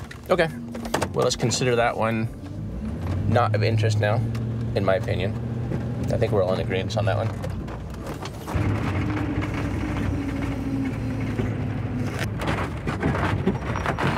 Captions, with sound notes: Okay, well let's consider that one not of interest now, in my opinion. I think we're all in agreeance on that one. (tires rumbling)